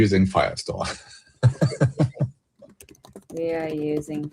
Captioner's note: laughter